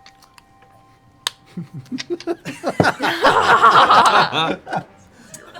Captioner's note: laughter